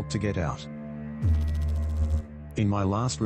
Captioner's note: electrical noise